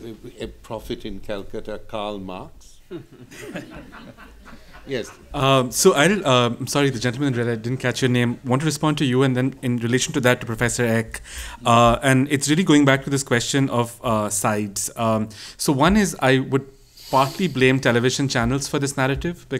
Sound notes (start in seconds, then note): 2.9 laughter